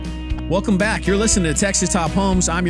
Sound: voiceover

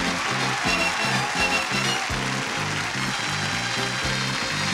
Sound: applause, cheering

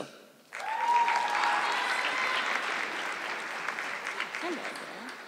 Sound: audience clapping

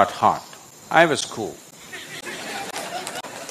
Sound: laughter

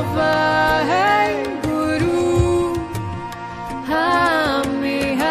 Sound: chanting in foreign language

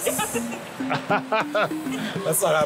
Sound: laughs

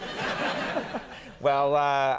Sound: audience laughs

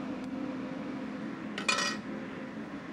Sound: spoon clatters

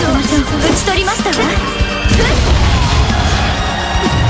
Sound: drops bomb

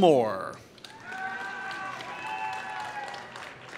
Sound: applause

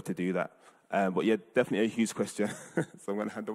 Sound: laughing

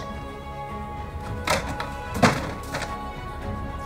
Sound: background music; thump/falling noise of picture board on wall; background music

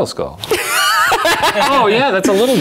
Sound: laughs loudly

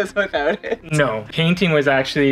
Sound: chuckles

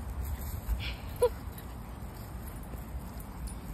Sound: laughing

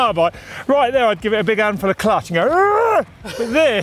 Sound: groaning

